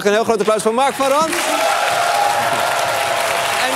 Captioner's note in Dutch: applaus en gejuich